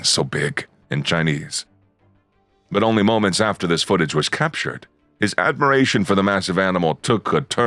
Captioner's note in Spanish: en chino